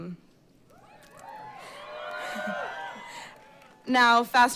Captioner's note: cheering